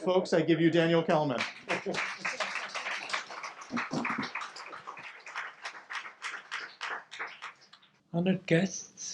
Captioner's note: audience clapping